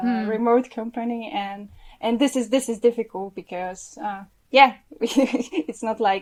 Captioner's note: laughs